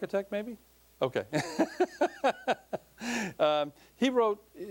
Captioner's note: laughing